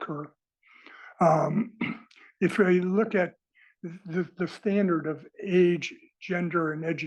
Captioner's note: cough